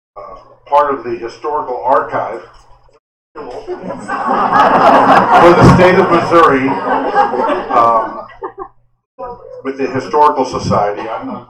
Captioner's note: laughter